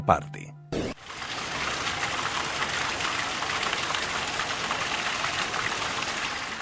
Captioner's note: sonido del agua al caer